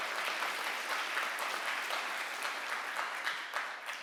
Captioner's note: audience applauds